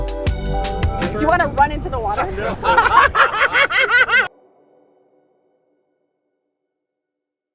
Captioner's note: laughs